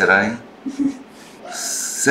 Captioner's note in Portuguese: risos